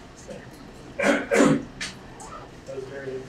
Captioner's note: clears throat